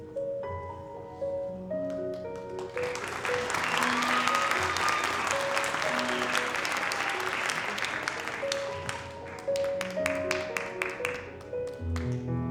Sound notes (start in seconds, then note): 1.9 audience applauding; 2.5 audience cheering